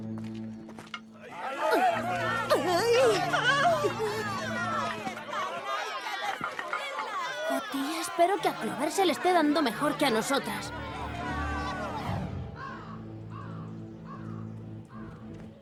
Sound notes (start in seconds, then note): 3.4 crowd shouting, indistinct; 12.6 cawing